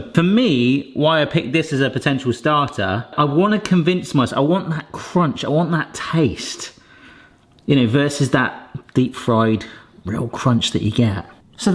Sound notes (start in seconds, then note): none